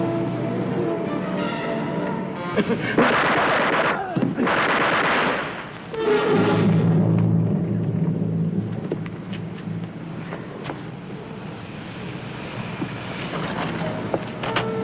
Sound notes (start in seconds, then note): 2.9 gunshots ringing out; 2.9 officer coughing; 4.5 body thudding; 4.5 gunshots ringing out; 6.1 dramatic music